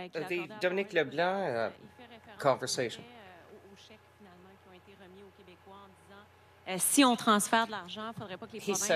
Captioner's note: speaking French